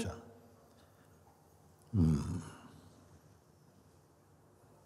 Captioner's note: silence